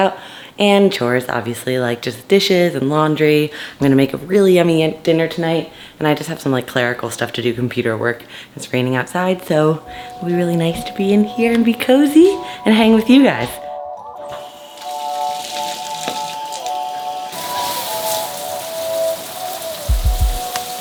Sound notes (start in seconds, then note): 14.3 water rushes